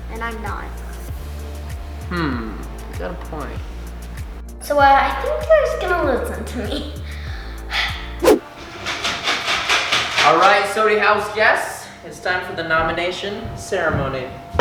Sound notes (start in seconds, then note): 8.7 soft shaking